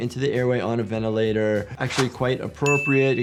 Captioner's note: graphics swishing; graphics whooshing; graphics dinging